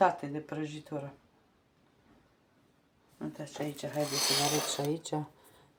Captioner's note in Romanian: sforăit